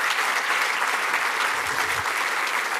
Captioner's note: applause